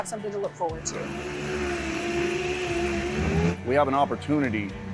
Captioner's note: sanding